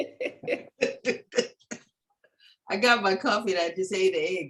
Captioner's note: laughter